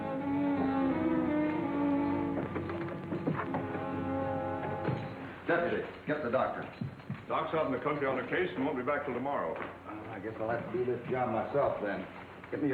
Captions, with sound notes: (spurs jingling) Deputy, get the doctor. - Doc's out in the country on a case, and won't be back 'til tomorrow. - Well, I guess I'll have to do this job myself then.